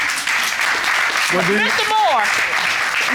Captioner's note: audience applauding